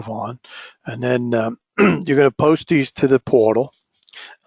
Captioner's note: cough